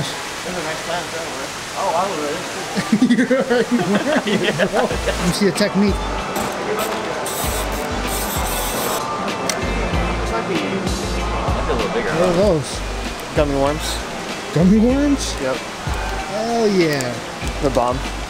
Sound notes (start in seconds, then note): 2.7 laughing